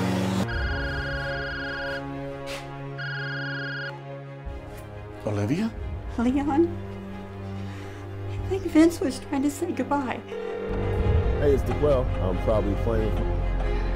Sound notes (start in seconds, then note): 0.5 phone ringing; 10.2 phone ringing